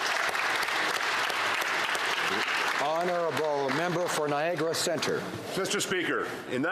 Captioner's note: applause